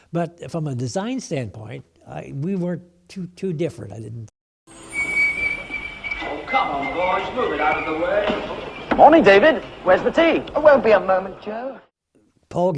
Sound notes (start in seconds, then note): 4.7 whistle tooting